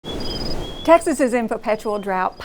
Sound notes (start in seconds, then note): 0.0 birds chirping